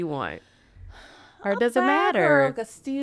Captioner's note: sighing